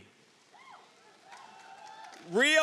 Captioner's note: audience cheering